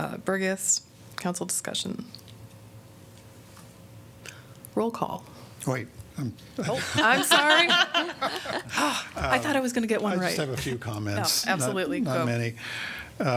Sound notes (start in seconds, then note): 6.6 laughter